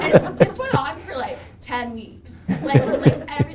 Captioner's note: Dr. Fauci laughing